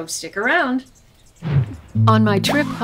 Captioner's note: whoosh